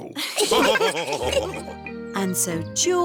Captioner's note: laughs; all laughing